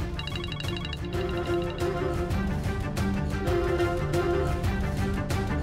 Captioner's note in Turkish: Telefon çalıyor